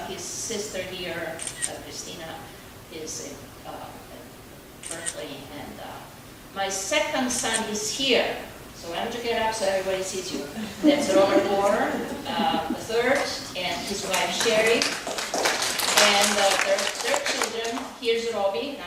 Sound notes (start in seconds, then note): 14.9 audience applauding